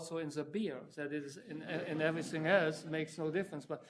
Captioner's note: audience chuckling